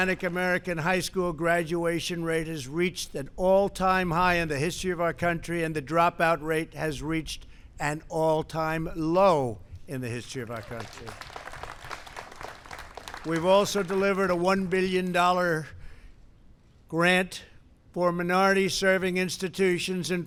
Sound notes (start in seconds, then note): 0.0 applause; 10.3 applause